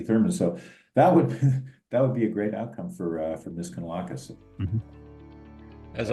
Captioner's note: laugh